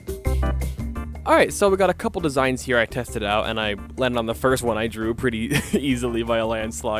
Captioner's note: laughing